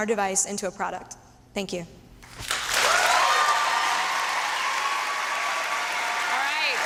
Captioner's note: applause and cheering